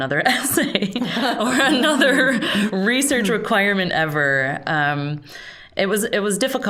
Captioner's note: laughing